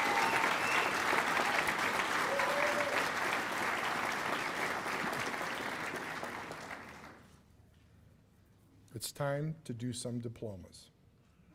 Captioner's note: cheers and applause